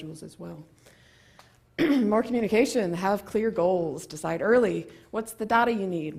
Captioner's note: cough